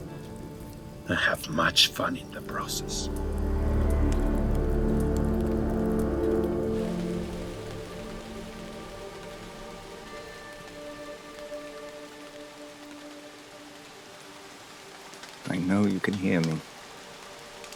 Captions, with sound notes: And have much fun in the process. (dramatic music) (fire crackling) (gentle music) - I know you can hear me.